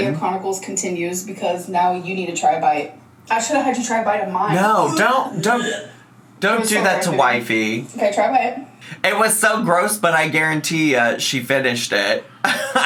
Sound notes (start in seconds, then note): 4.5 gagging sounds